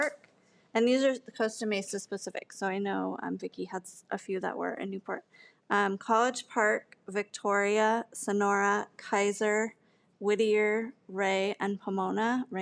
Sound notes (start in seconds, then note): none